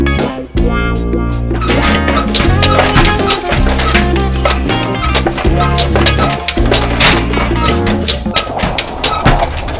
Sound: metal clattering

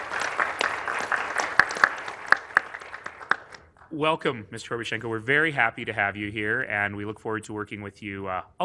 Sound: applause

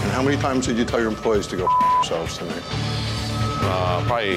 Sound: beep

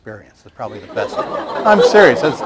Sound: laughter

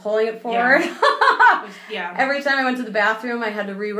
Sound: laughing

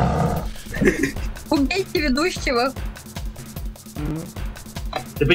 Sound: laughs

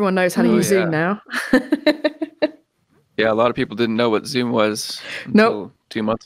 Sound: laughter

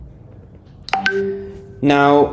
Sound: computer dinging

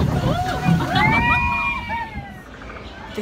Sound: laughter; excited cheering

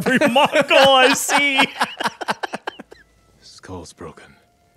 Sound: both laughing

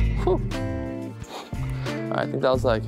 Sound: exhaling

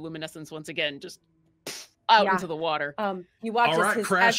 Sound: mimics whoosh

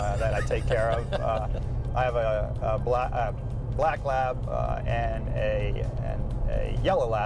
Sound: laughter

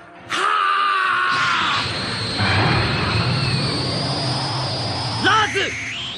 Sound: SFX: spell sound

